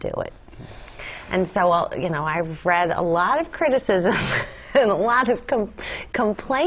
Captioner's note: laugh